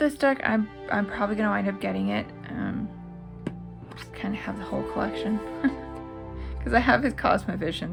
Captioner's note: laugh